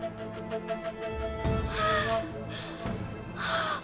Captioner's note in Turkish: Derin nefes alıyor